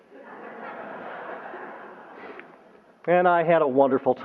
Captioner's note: laughter